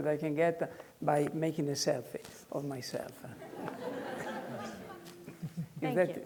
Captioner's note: students laughing